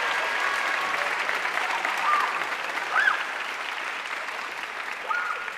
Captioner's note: audience cheering and applauding